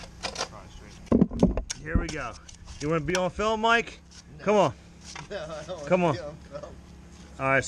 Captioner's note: laughing